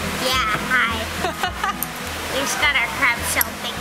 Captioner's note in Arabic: يضحك